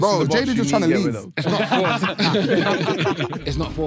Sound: everyone laughing

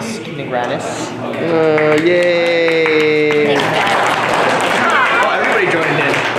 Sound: applause

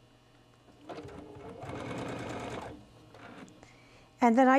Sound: sewing machine whirring

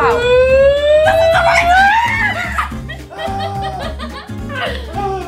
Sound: screaming and laughter

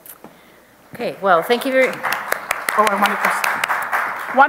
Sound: audience applause

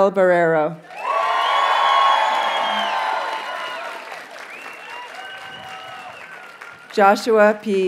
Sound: audience cheers and applauds

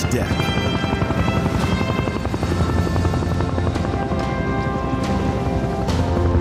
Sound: dramatic music; blades chopping

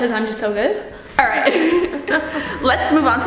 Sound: laughing

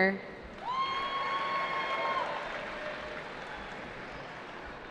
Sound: cheering

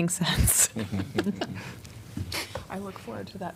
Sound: laughter

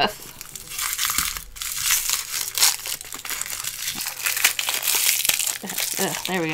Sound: packaging rustles

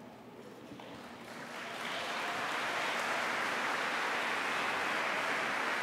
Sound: applause

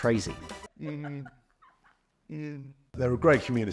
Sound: employee 3 babbling

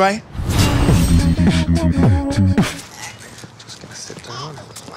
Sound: air whooshing

